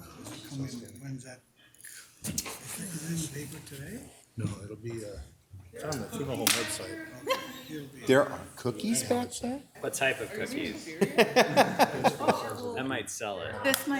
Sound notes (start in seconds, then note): 10.9 laughter